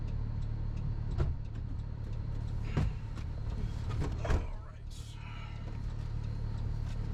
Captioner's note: driver's door opens, then shuts